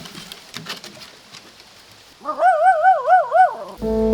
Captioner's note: dog barks again